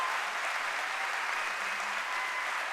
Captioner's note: cheering and applause